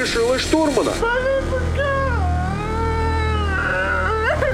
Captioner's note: crying